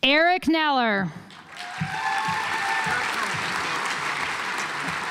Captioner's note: audience applauds